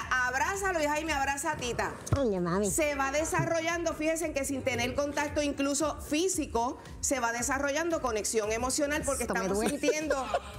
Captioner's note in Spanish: risas